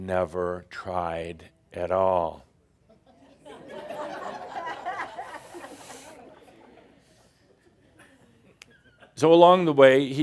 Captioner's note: more stink eye and more chuckles